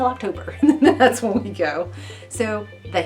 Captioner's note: laughs lightly